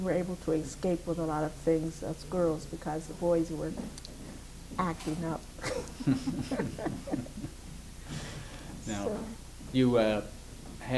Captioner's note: laughs